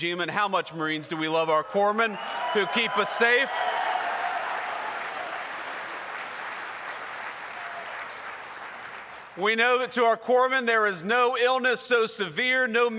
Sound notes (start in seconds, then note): 4.2 applause